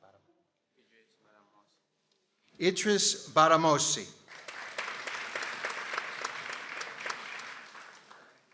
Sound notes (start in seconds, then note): 4.2 people applauding